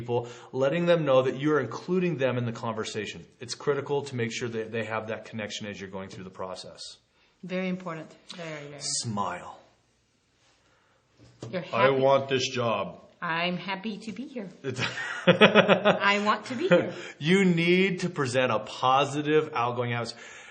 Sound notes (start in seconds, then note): 14.6 chuckling